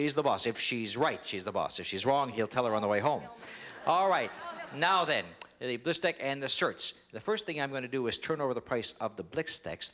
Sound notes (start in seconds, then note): 3.2 laughter